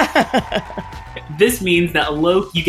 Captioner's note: laughs; crowd cheers